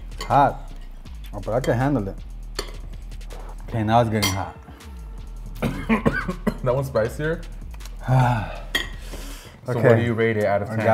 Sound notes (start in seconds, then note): 5.5 coughing